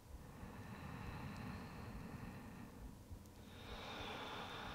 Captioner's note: deep breathing